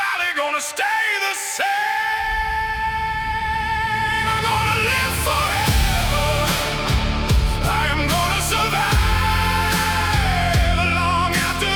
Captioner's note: screaming